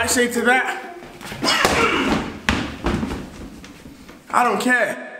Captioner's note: grunts